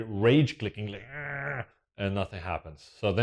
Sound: grunts

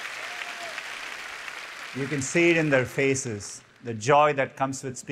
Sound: applause

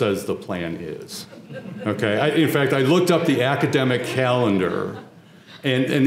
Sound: laugh

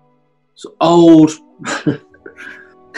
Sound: chuckles

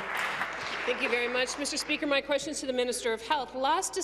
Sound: applause

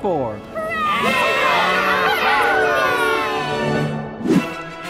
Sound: cheering

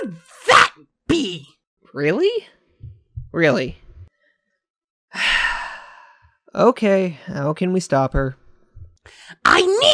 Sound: sigh

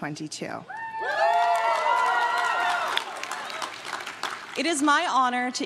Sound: crowd claps and cheers

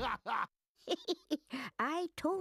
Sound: giggling

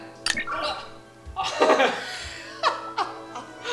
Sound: laughter

